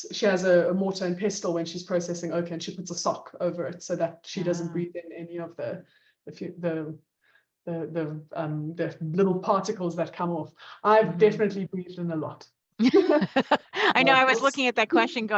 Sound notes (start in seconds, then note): 12.8 both laugh